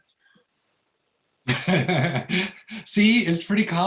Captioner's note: laughs